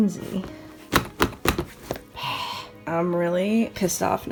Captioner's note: slamming suitcase shut